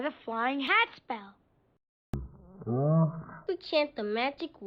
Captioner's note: moaning while thinking